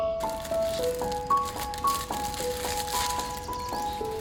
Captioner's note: calming piano music; plastic rustling